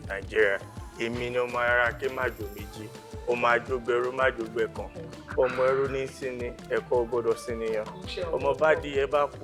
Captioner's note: recites Yoruba praise poetry